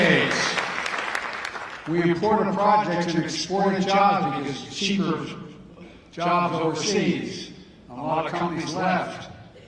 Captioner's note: applause